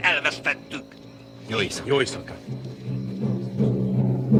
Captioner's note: muttering